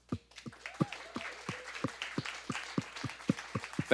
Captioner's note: audience applause